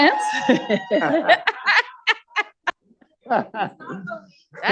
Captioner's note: audience Cheers